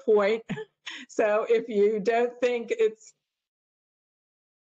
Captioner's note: laughter